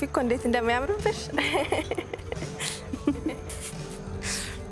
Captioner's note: laughter